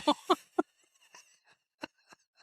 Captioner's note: laughing